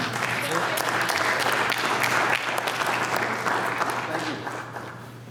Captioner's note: applause